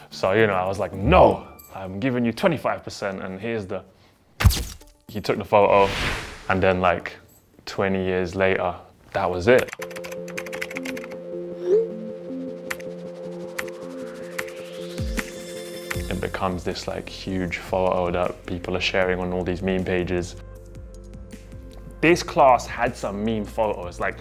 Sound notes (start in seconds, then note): 4.4 camera clicks; 9.6 typing sound